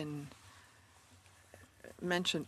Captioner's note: speaking French